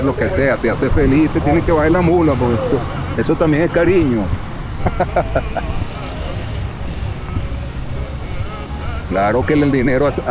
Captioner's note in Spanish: risas